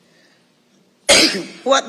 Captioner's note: coughs